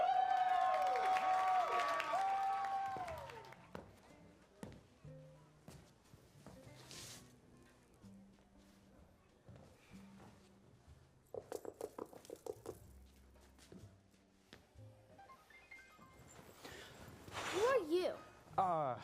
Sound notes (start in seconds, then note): 0.0 cheering, applause; 12.1 knocking